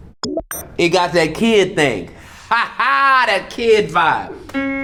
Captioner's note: laughs